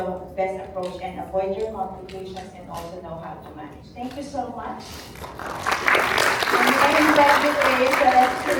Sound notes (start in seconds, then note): 7.4 Palakpakan